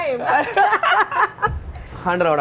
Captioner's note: both laugh